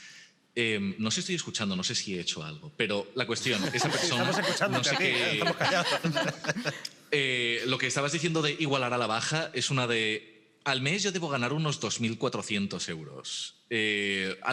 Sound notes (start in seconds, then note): 5.7 they laugh